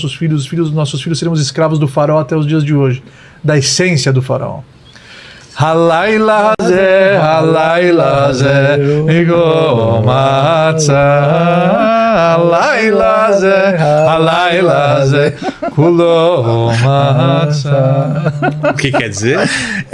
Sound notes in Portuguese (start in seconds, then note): 5.5 risadas